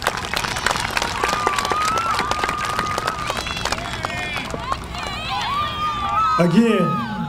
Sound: applause

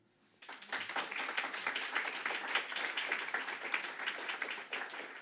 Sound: audience applauding

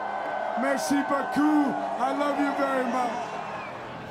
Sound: cheers and Applause

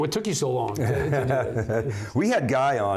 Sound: laughing

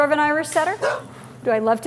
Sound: dog bark

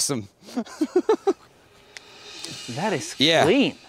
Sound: laughs

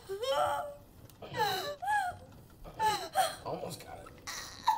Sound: Lilith loudly groans

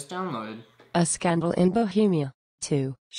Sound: computerized Voice

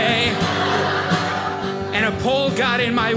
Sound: audience laughing

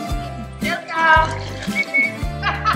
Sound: whistles

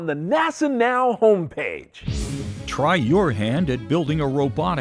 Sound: sound Effects

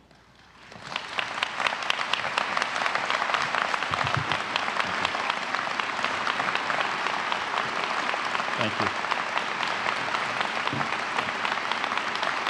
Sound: applause

